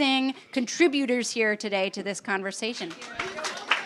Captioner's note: applause